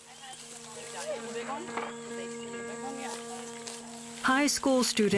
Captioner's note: indistinct chatter